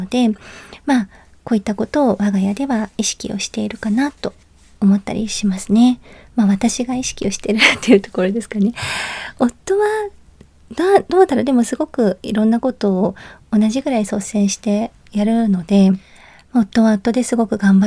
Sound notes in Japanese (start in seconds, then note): 8.7 息をのむ音; 8.8 ため息